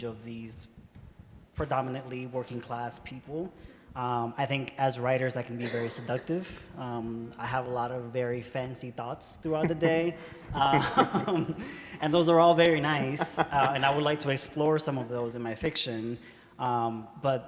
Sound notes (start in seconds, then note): 9.5 laughs; 9.5 laughter